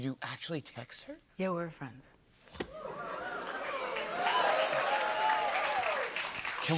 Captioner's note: cheers